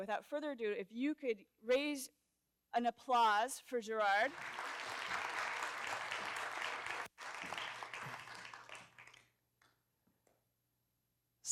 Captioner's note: applause